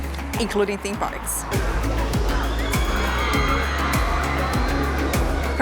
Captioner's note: screaming